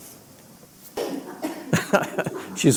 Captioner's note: laughter